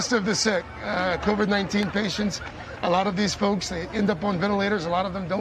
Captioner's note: cheers and applause